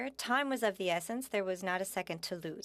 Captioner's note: speaking French